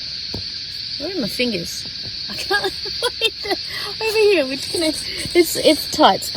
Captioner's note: laughs at self